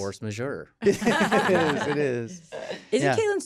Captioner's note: all laughing